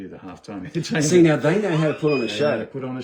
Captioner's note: giggling. supressing immense laughter